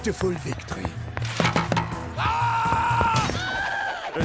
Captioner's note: screaming